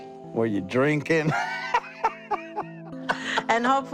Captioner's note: chuckling